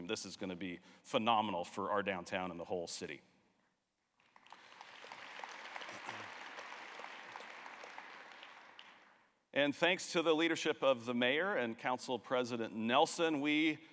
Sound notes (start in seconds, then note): 4.2 applause